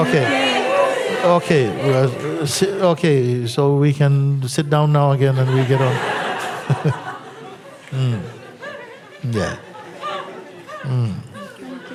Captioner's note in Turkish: gülüşler